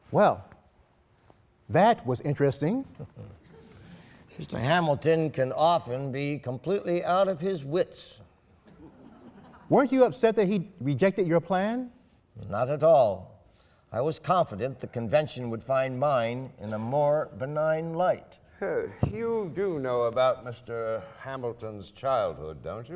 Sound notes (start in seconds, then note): 8.6 laughing